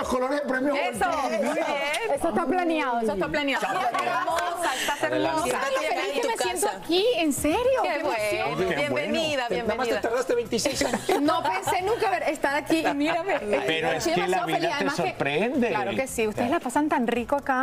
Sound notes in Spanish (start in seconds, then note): 10.6 risas